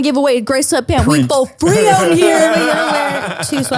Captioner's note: laughter